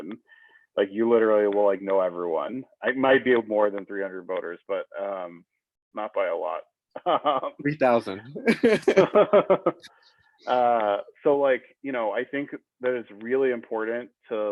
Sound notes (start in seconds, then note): 8.4 laughing